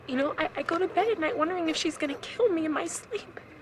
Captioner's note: none